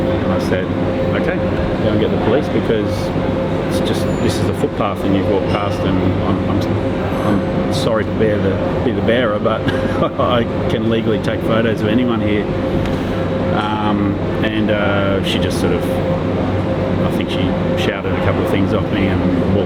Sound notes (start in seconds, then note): 9.6 laughs